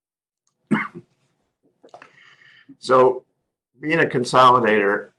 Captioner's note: cough